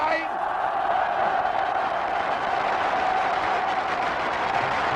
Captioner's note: crowd cheers